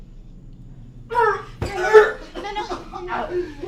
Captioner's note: gagging